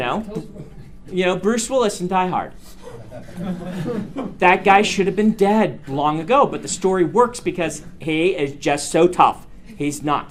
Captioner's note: students laugh